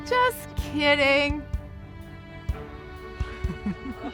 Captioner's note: laughs